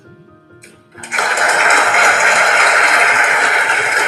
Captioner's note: applause